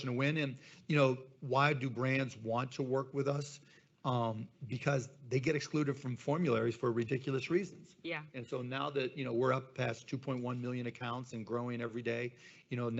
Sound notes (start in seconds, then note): none